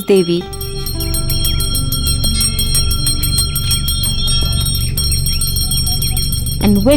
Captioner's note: bell chimes; soft music